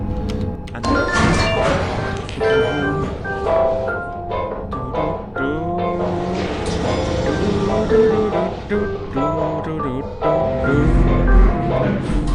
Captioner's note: humming along the elevator music